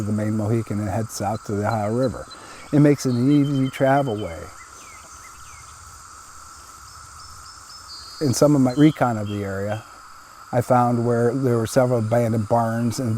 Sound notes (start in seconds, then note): 5.2 insects chittering; 6.4 birds chirping